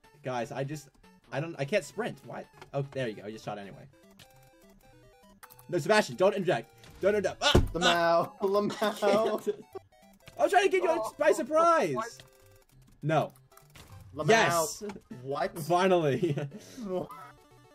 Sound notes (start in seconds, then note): 7.5 table Slam